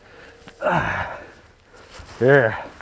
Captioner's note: groans